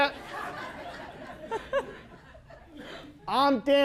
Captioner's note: laughter